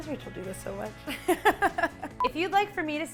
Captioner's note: laughs